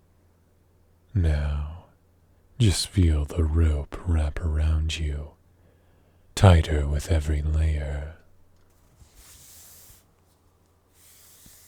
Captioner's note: rope noises